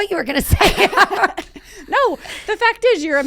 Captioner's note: laughing